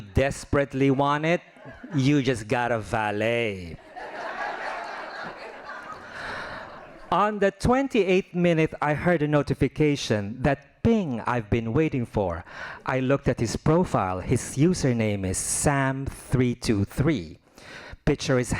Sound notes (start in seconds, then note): 0.0 laughing; 3.8 laughing